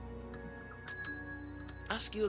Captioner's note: doorbell